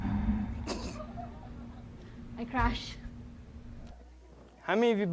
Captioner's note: others laughing